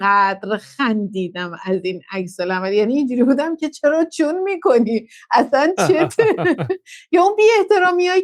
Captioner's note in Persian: خنده